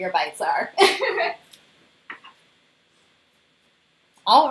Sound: laughter

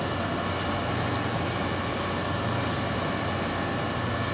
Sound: machines running

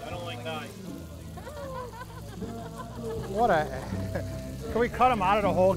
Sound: laughing

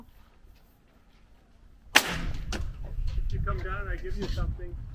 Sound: nail gun shooting

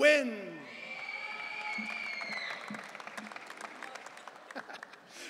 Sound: audience cheering

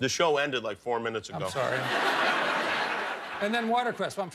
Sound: laughter

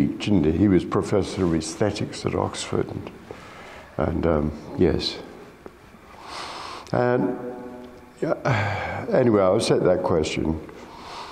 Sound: sighs

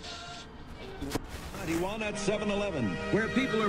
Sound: radio dial shifts

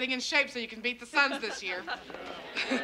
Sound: parents laughing

